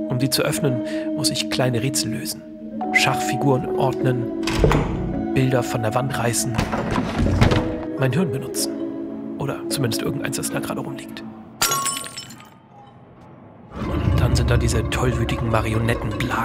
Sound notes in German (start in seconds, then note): 6.6 Rumpeln; 11.6 Glas zerspringt